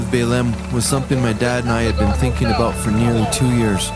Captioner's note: clapping, cheering